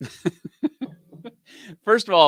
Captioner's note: laughs